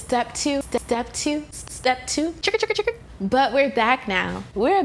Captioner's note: scratching sound